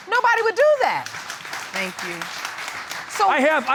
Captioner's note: audience claps